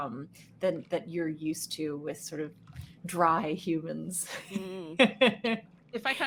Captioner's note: laughs